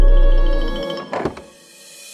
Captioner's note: door opening